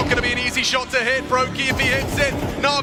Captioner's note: gun firing